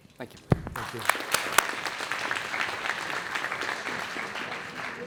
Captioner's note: everybody applauds